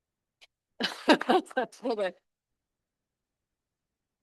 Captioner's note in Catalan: rialles